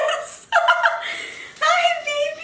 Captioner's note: laughing